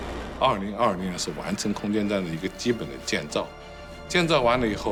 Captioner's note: rocket roars; speaking foreign language